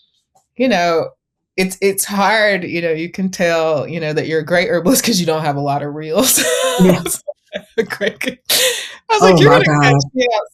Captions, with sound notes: It's hard, you can tell that you're great herbalist 'cause you don't have a lot of reels. (both laughing) I was like, "You're going to catch me outside looking sweaty.